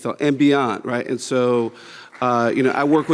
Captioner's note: audience clapping